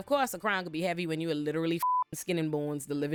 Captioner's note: beep